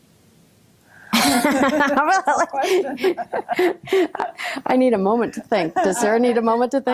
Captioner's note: laughing